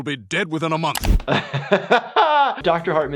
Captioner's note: doctor laughs